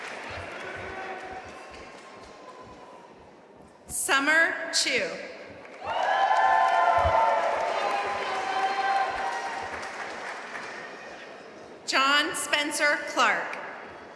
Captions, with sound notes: Summer Chu (audience cheering and applauding) John Spencer Clark